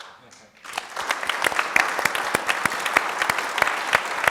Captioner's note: audience applauding